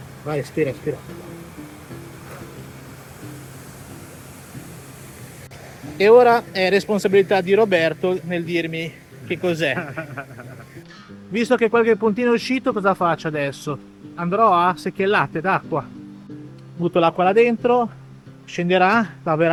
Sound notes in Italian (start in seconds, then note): 9.2 risate